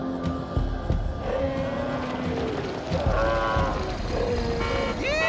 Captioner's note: roaring; horn honking